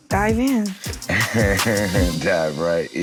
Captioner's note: laughing